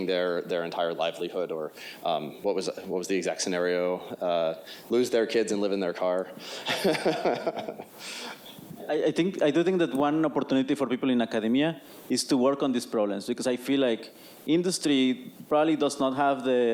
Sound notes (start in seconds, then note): 6.7 laughs